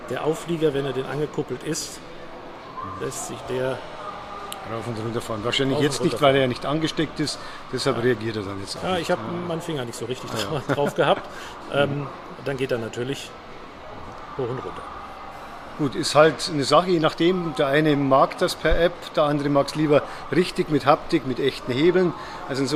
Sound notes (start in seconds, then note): 10.2 laugh